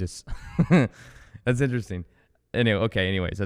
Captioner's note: laughs